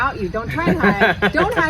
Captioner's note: laughs